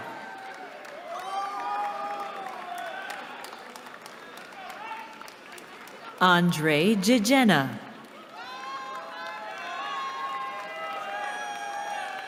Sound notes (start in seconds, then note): 0.0 cheering; 8.0 cheering